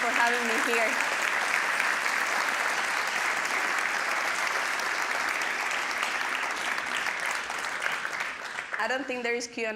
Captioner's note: applause